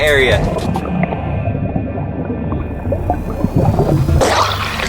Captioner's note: water bubbling